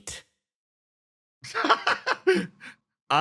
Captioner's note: laughs